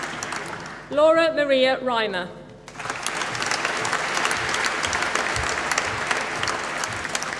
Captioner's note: applause